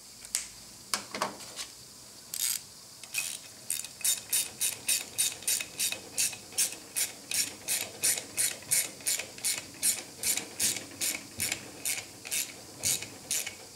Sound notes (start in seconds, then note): 2.9 ratchet noises